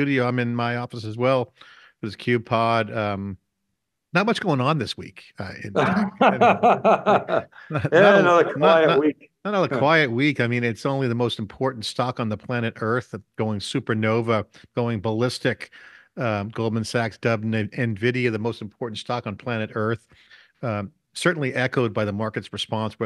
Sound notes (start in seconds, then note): 5.7 laughing loudly